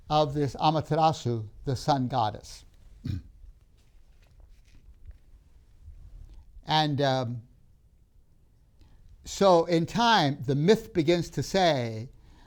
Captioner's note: clears throat